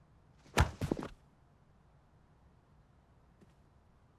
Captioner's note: camera thuds